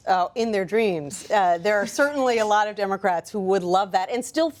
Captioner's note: laughter